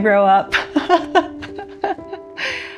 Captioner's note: laughs